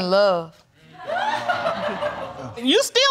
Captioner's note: crowd laughing